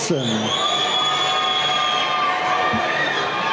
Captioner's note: cheering